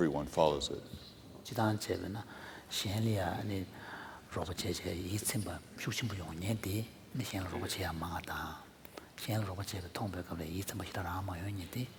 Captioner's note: foreign Language